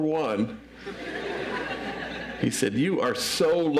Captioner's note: audience laughs